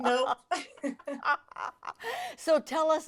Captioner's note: laughing